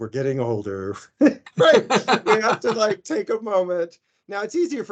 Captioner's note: laughing